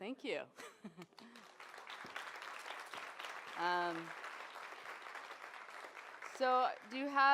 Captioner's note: applause